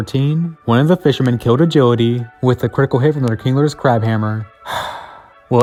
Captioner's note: sigh